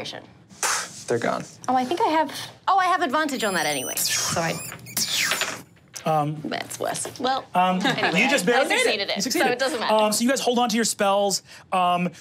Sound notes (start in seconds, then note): 1.4 scoffs; 3.1 rats squeaking